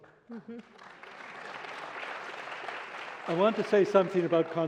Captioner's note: applause